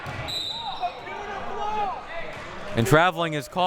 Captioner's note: audience chattering; whistle blowing